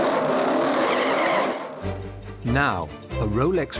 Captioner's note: engine starts, tires squeal